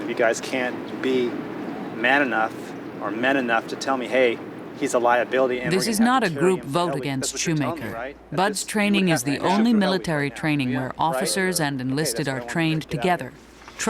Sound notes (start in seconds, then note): 5.4 voiceover